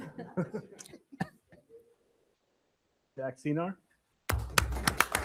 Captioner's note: everyone laughs